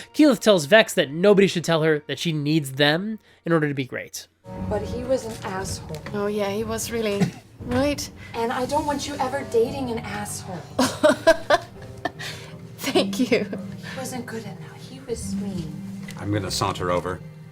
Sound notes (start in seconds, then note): 12.7 laughs